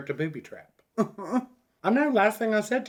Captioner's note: chuckles